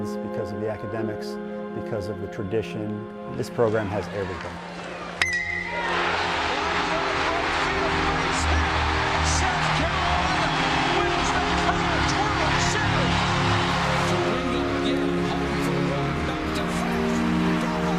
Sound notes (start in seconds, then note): 5.3 baseball bat clangs ball; 7.5 fans cheering